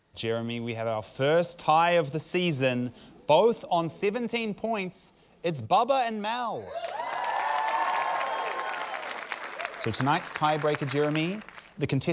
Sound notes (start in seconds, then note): 6.7 cheering, applause